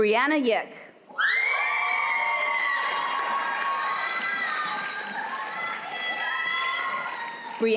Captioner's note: applause